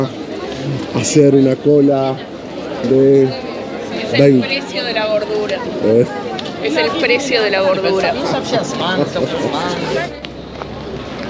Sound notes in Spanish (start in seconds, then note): 8.4 risas